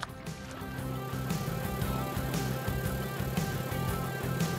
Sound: motor running

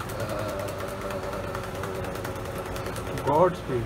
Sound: humming

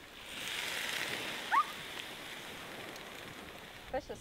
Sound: food sizzling

